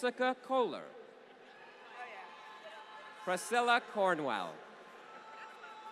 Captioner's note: applause